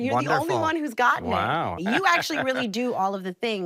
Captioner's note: laughs